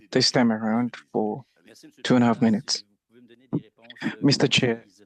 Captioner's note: speaking French